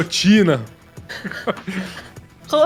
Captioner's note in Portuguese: Risadas